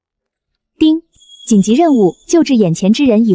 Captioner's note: ding!